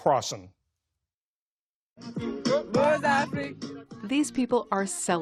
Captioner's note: voice-over